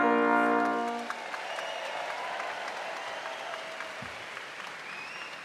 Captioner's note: audience applauding